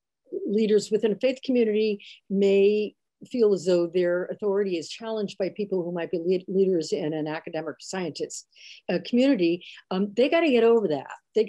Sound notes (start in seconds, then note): none